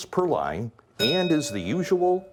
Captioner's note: bell ringing